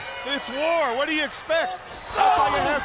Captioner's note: crowd chatter